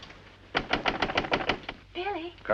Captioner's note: knocing on door